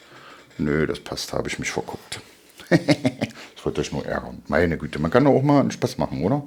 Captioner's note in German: gelächter